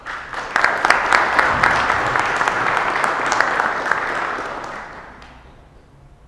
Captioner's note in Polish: oklaski